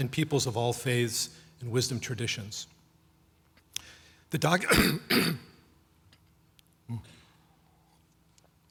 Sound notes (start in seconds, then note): 4.6 clearing throat